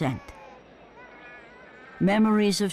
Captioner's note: baby crying